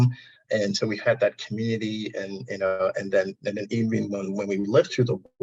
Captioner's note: audio distortion